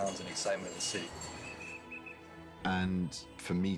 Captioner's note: whistle blowing